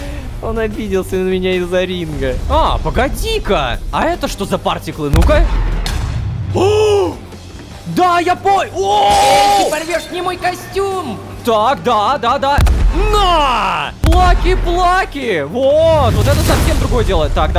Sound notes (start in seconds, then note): 8.8 screamer